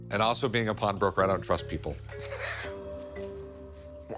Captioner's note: laughs